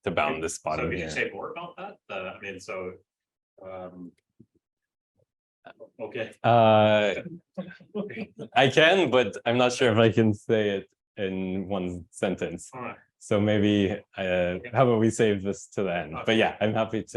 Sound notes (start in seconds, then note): 7.6 chuckles